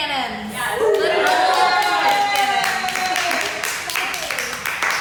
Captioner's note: audience clapping